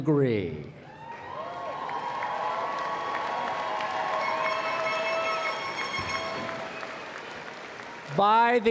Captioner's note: applause